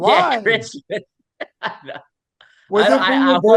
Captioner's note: laughing